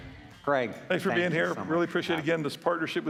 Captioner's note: applause